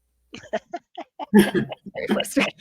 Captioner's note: participants laughing